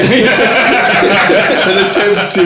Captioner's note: laughing